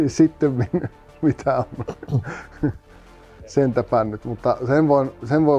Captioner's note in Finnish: Nauraa